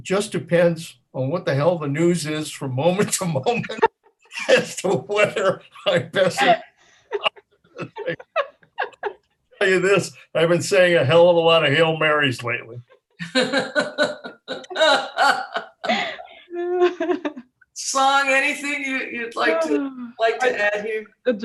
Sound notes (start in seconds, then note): 3.4 laughs; 3.4 laughing hysterically; 13.2 laugh